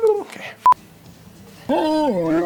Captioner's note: beeps